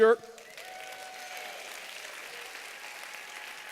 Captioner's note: applause